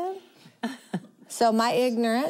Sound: laughing

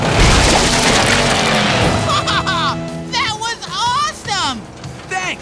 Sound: laughing

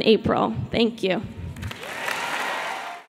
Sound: applause

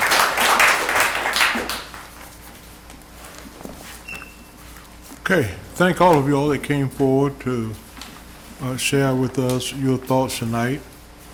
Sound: applause

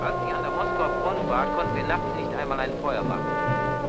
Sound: German spoken audio

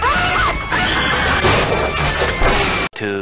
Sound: screaming; crash

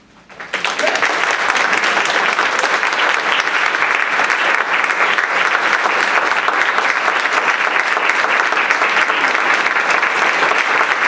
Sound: applause

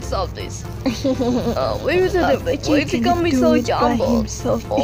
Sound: other ronins mumbling in background

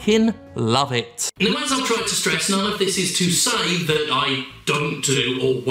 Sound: voice echoes

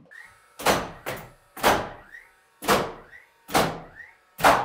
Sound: nail gun thudding

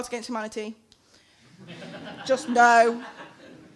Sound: laughing

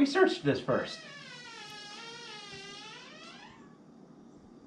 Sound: door creaking

